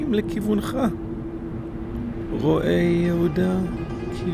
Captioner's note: speaking in Hebrew